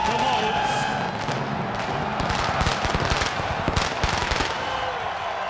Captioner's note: audience cheering